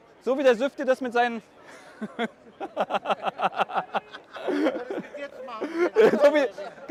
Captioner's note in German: Gelächter